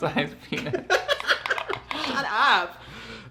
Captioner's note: both laugh